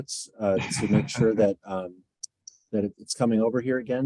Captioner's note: laughs